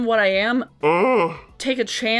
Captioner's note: gibberishing